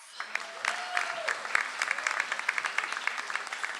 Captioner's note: audience applauds